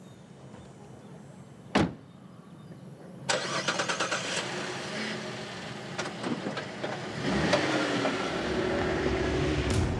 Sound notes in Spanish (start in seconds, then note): 3.2 ruido al arrancar el motor